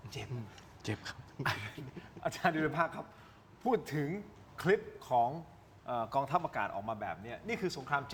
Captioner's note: laughs